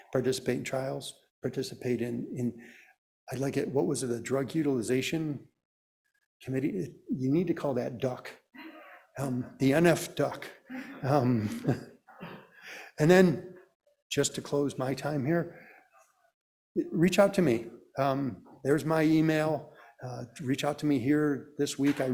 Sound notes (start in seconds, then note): 10.7 chuckling